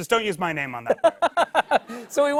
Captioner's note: laughter